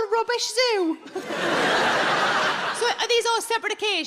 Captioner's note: audience laughing